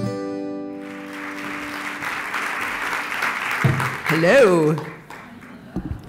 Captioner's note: applause